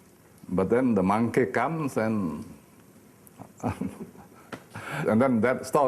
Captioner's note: laughing